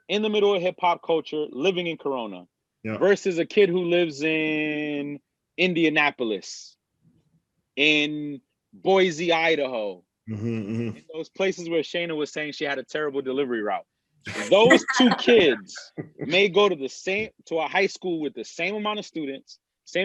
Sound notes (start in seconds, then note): 14.3 laughs